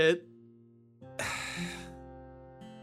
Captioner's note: sigh